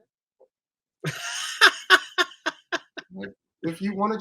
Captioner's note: laughs